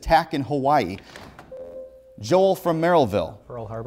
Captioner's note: buzzer